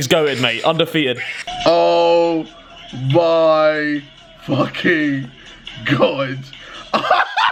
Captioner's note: laughs loudly